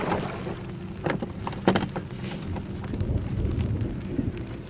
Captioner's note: thunder booming